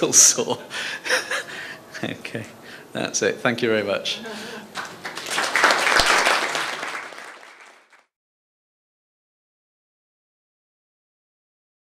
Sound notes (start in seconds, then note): 1.0 laughs; 4.7 applause